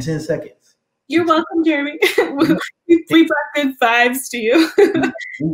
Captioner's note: laugh; laugh